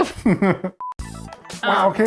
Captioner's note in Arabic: يضحك إيفان